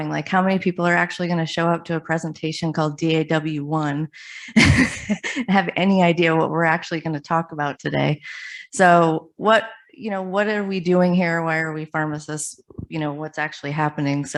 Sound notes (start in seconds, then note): 4.7 laughs